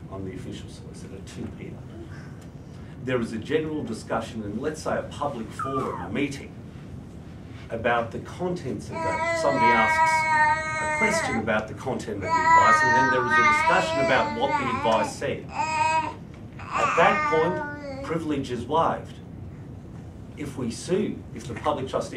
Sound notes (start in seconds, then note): 8.9 baby noises